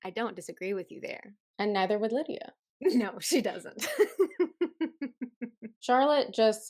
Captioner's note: laughter